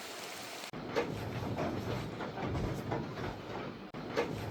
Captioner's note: rain sound ASMR